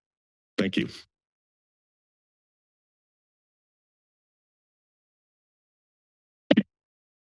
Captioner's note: silence